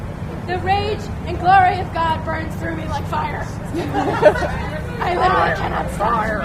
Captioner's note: laughter